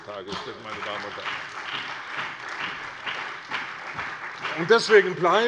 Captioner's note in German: Beifall bei der CDU und dem BÜNDNIS 90/DIE GRÜNEN